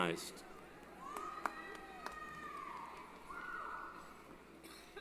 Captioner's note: cheering